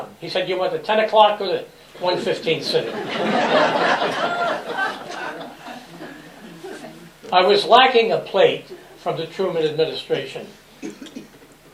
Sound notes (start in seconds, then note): 2.1 laughter